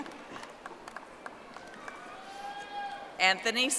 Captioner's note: audience applauding